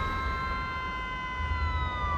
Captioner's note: sirens wailing